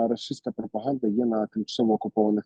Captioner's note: Russian